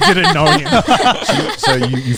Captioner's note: everyone laughing